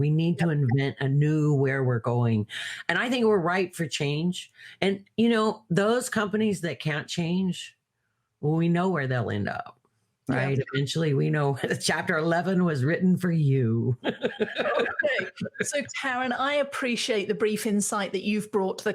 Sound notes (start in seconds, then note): 14.0 laughing